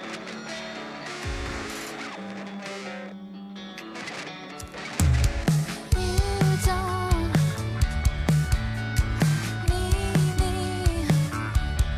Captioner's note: crowd cheering